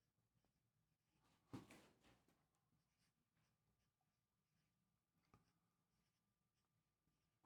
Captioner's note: silence